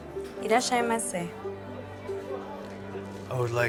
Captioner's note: speaks japanese